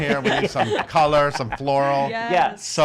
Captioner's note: laughs